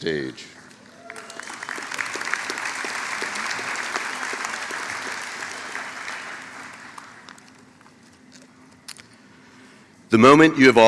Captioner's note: applause